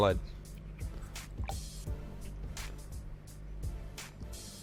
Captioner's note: marmalade plops